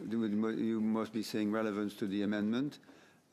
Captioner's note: speaking French